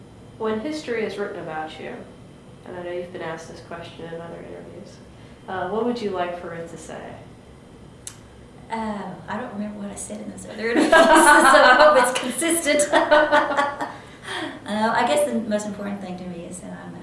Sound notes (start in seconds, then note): 13.2 laughter